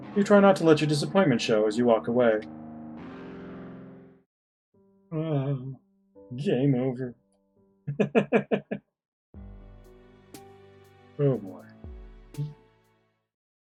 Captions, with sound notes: "You try not to let your disappointment show "as you walk away." Uwaa. "Game over." [chuckles] Oh boy.